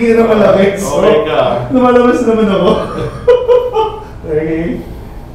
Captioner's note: laughing